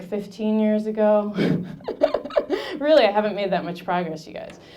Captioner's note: laughing